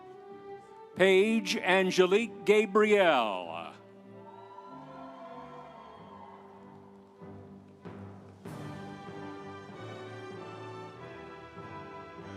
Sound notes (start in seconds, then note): 5.0 audience cheering; 5.0 instrumental music